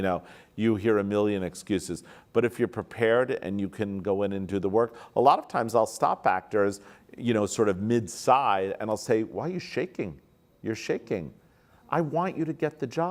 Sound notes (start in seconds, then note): none